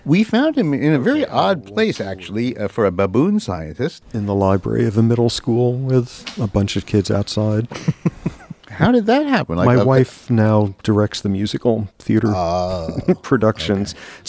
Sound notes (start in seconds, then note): 7.7 laughs